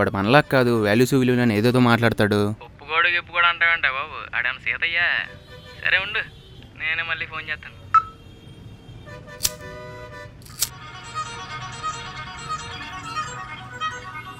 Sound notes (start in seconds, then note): 9.4 lighting cigarette; 11.0 phone ringing